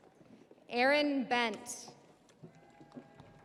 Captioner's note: audience applauding; audience cheering